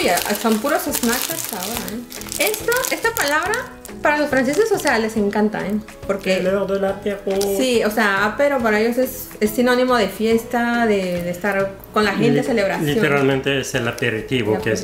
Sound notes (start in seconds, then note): 10.2 french